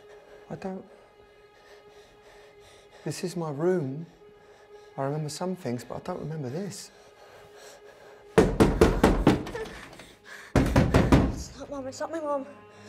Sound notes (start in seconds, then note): 8.3 hard knocking on the door; 9.5 door knob rattles; 10.5 knocking continues